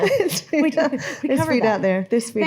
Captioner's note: laughing